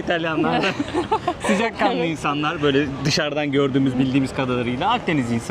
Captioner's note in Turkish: kahkaha